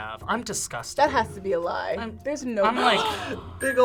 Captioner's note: gasps